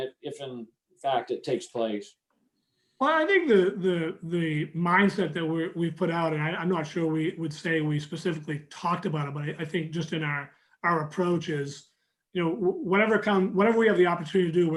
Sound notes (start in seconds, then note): none